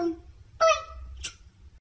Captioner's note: smooch